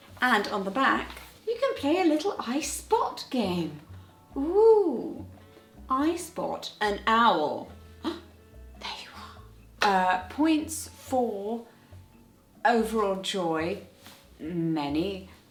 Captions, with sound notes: And on the back, you can play a little I Spot game. Ooh. I spot an owl. (gasp) There you are. Points for overall joy, many.